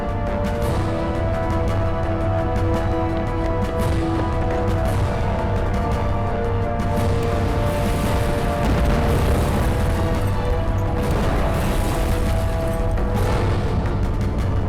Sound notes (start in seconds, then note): 0.1 dramatic music; 7.4 explosion booming